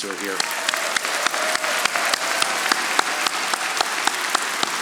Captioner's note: audience applauding